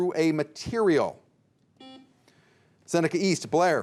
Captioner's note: buzzer dings